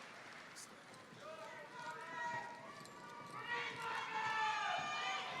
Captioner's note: muffled yelling